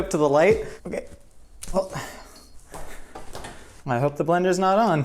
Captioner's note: exclaims loudly